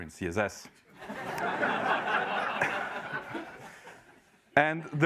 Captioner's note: laugh